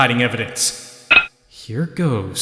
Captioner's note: clink!